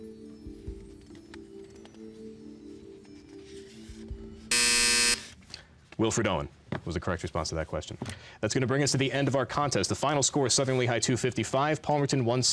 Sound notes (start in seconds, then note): 2.8 buzzing